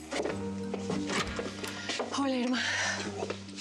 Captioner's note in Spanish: ruido al abrir